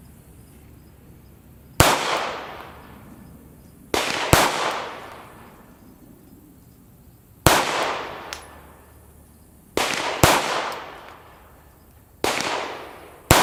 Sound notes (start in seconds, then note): 2.0 gunshots